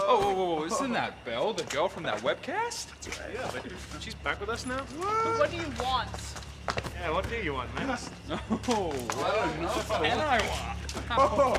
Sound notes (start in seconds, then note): 10.5 laughing